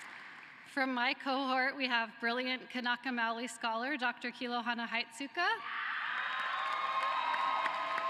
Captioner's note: cheering and applause